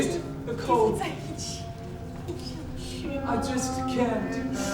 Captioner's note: speaking in a foreign language